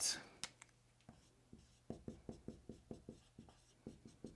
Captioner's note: pen scratching